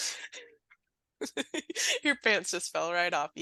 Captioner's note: laughing